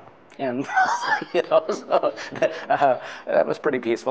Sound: laughing

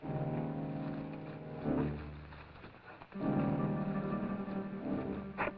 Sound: brush rustling

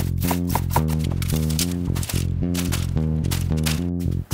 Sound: sound of chopping vegetables

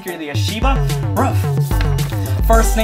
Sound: ruff

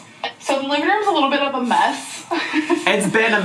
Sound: laughs

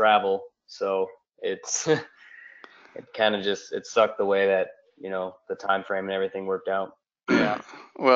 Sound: laugh

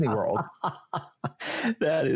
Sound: laughing

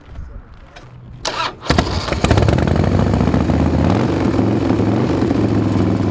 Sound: motorcycle engine starting; motorcycle revving

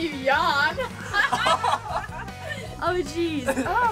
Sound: laugh

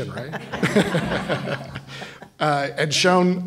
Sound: laughter

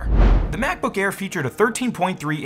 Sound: swoosh

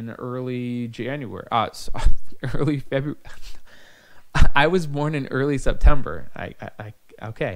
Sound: laughing

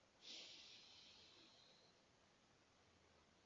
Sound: exhalation

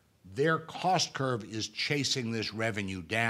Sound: none

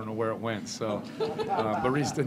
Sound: laughter

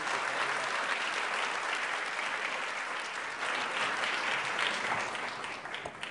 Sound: applause

